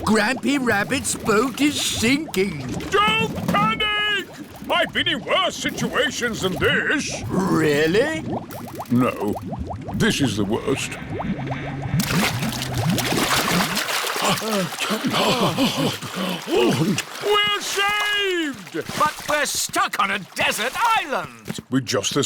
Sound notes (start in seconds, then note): 14.2 all puff and pant